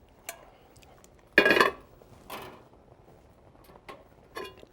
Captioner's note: sieve clatters